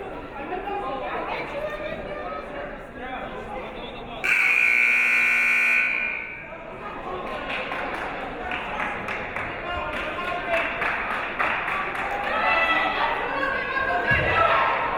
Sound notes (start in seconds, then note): 4.2 siren buzzing